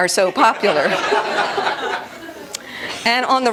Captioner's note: laughter